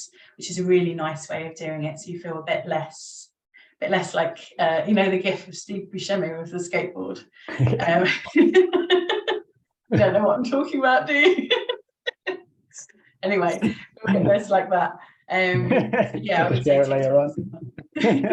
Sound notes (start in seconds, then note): 12.1 laughs; 15.5 chuckles